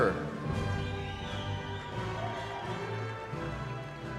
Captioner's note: cheering